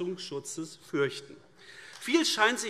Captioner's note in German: Beifall AfD